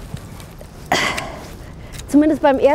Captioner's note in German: Ächzen